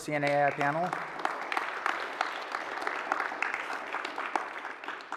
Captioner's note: applause